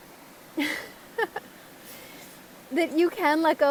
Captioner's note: laugh